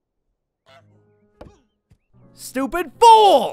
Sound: goose squawks

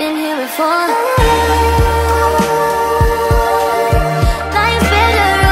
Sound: ooh, ooh

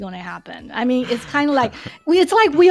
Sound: laughs

